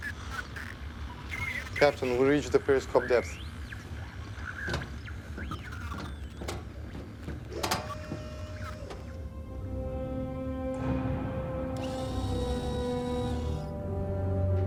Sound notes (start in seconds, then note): 4.1 thud sound